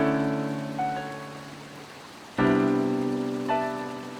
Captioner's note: water gurgles